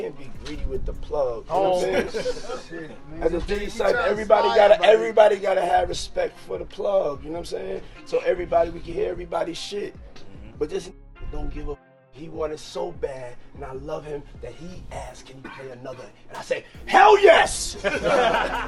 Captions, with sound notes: you can't be greedy with the plug. - Oh shit, man. (small crowd laughs) - At the Diddy Cypher, everybody gotta have respect for the plug, you know what I'm saying? So everybody can get everybody's shit. (mellow hip-hop music) But this don't give a. He want it so bad and I love him, that he asked, "Can we play another?" And I said, "Hell yes!"